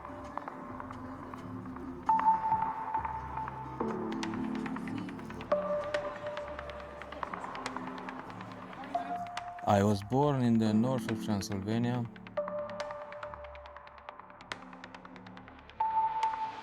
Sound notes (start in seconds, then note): 7.8 narrator over music